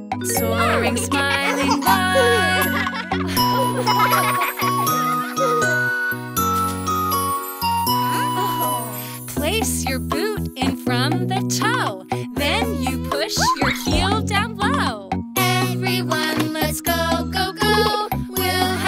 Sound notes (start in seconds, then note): 3.7 children laughing; 6.3 happy music